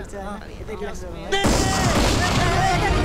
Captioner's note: Gunshot